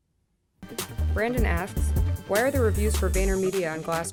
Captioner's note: voiceover